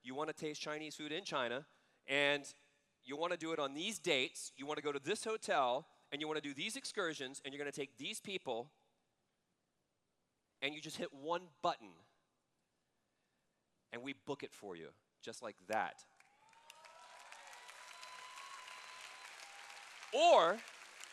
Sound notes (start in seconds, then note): 16.3 cheers